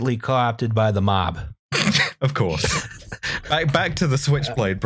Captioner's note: laughter